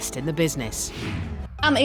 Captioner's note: air whooshing